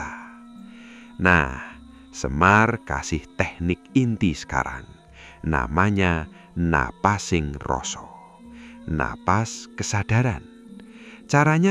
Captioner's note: breathing of awareness